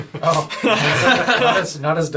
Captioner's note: laughs